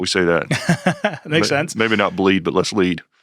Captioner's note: laughs